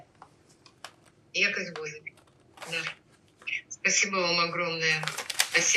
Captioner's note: ukrainian